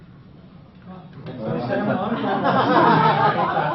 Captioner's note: laughing